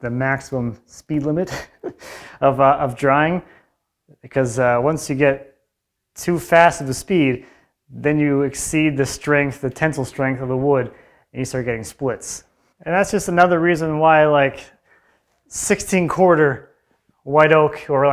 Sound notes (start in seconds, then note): 1.4 laughs